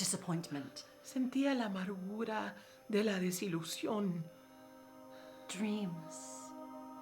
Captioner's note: speaking in foreign language